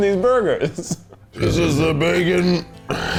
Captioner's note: belches